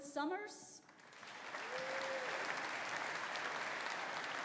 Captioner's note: audience applauding